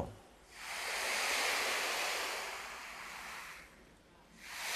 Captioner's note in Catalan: sona com les onades